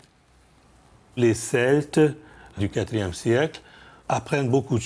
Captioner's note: French spoken audio